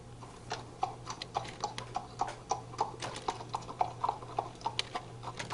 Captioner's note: horse hooves receding